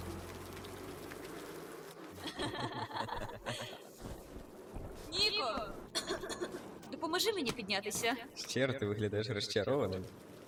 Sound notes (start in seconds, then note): 2.2 laugh; 5.9 coughs